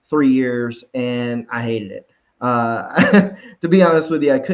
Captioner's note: chuckles